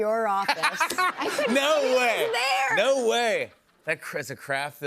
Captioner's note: laughs